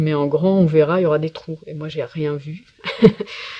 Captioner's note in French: rire